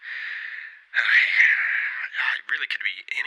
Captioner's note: heavy sigh